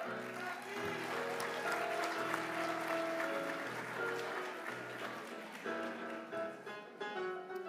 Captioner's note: applause